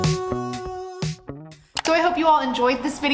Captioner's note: mouse clicks